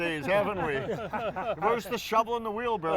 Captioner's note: laughter